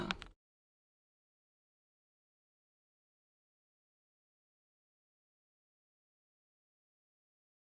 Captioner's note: moment of silence